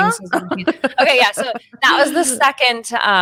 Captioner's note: laughing